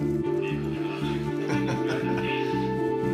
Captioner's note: laughs